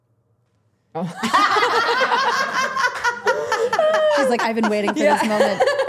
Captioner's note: everyone laughing